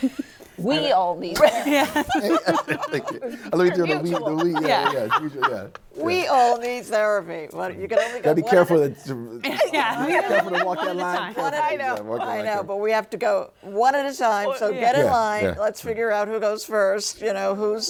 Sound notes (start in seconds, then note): 1.3 laughs; 9.5 laughs